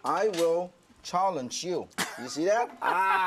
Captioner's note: laughter